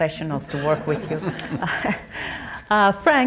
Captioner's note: audience chuckling